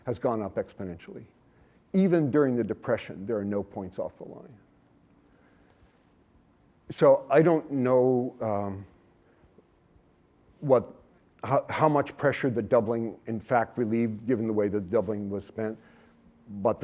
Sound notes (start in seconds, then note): none